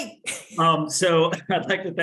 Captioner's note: laughing